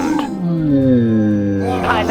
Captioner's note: KCC community roars; wails in frustration